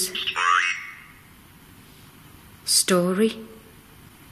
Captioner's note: OVILUS buzzing